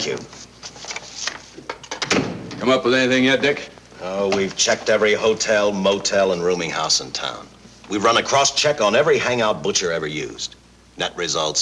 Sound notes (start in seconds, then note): 1.7 door opens; 1.8 door closes